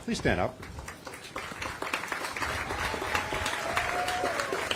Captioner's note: applause